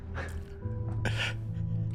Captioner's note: emotional exhale